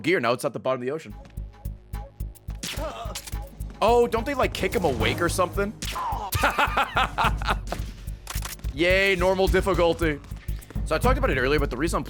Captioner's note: laughs